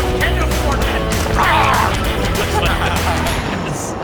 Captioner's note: laughing; growling; laughing